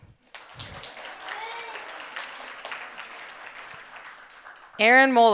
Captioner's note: audience applauding